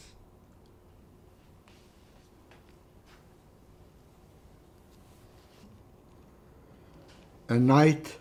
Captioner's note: pauses 6 seconds